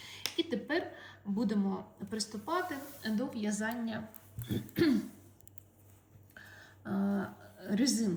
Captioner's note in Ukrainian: прочищення горла